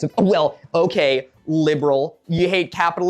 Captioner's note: mocking